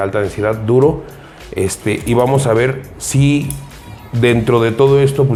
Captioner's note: metals sound